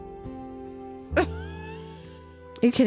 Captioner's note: laughter